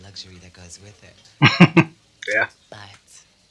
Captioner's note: chuckling